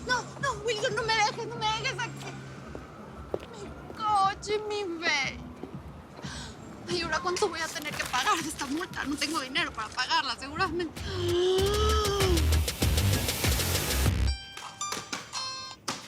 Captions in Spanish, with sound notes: - NO, NO, ¡WILSON! NO ME DEJES, NO ME DEJES AQUÍ. ¡MI COCHE, MI BABY! ¿Y AHORA CUÁNTO VOY A TENER QUE PAGAR DE ESTA MULTA? NO TENGO DINERO PARA PAGARLA, SEGURO... [Grito ahogado] [Suena un celular]